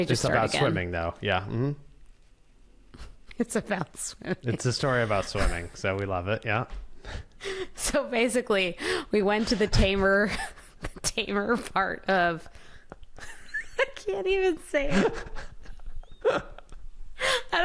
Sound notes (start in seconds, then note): 12.8 laughs; 14.9 laughs